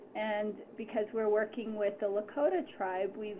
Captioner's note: none